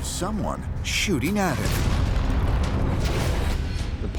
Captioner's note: cannon fire